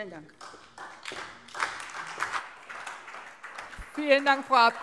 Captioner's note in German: Beifall SPD